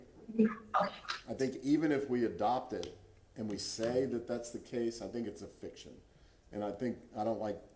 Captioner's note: ~distortion~